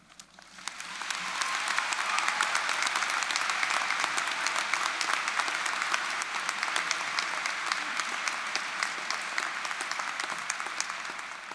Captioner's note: applause and cheering